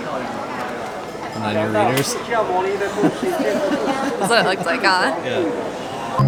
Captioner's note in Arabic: ضحك